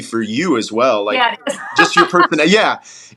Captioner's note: laugh